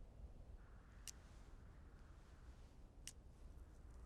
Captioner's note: none